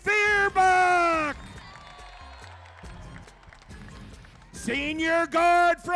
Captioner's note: crowd cheering